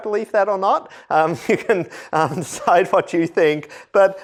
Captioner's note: laughter